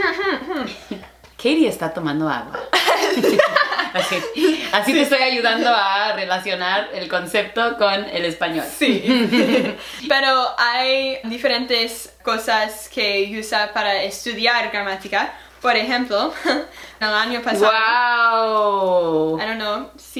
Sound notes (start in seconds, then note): 1.4 radio host voice